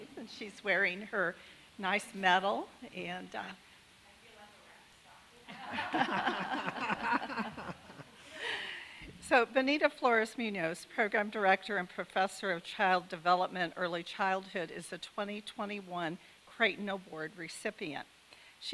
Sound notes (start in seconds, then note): 4.6 speaks faintly; 5.5 chuckles